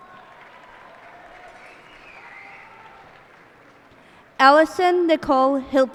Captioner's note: cheers and applause